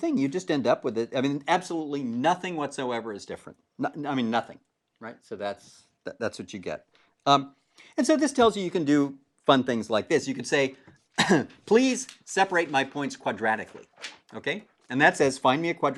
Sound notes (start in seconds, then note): 11.1 cough